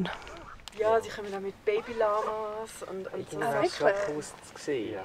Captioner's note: in Swiss German